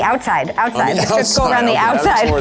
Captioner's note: laughing